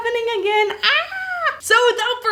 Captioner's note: screaming